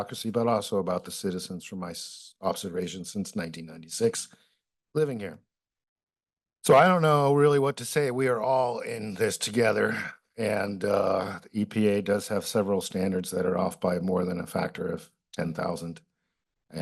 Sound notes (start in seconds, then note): 6.6 pause